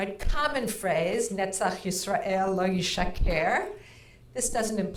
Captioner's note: speaking in foreign language